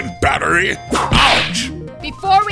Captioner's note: whip crack!